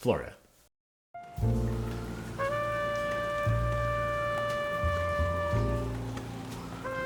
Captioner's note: calming jazz music; raindrops pitter-pattering